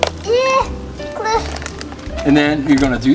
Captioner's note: straining